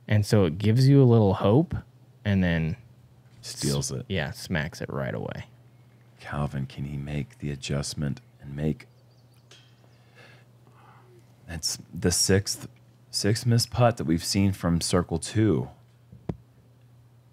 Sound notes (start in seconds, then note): none